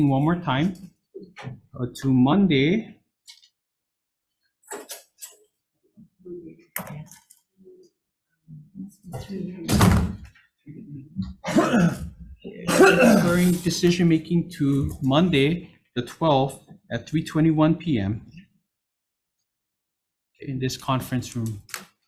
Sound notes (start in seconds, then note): 5.7 group muttering; 10.1 door rattling